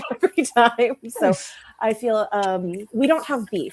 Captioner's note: chuckles